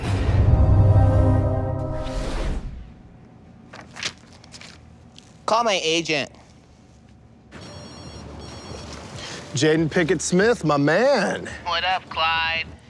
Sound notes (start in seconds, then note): 0.0 dramatic music; 7.5 phone ringing